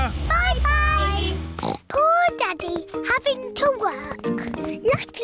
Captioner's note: horn beeps; oinks